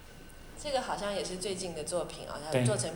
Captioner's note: Mandarin